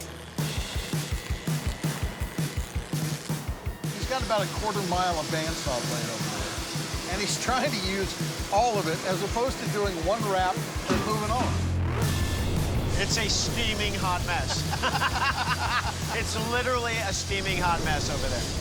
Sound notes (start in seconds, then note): 14.3 laughing